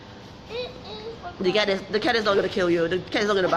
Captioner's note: child mumbling